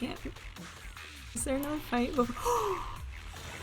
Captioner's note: gasp